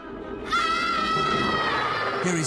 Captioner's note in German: alle schreien